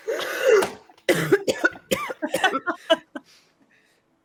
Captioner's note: Fairuza coughs